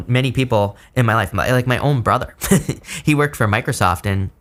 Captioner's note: chuckles